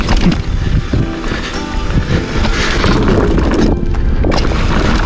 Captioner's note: tires on trail